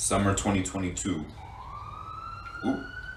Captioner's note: sirens in the distance